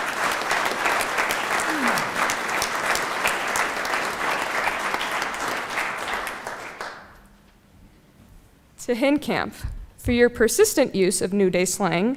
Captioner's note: applause